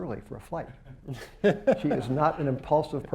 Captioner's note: laughter